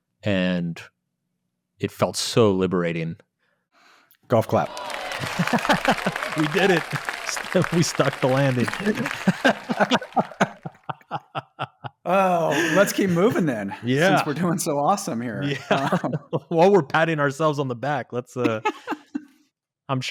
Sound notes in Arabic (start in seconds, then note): 4.4 تصفيق الجمهور المزيف; 9.1 يضحكون